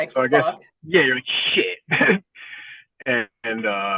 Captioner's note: laughing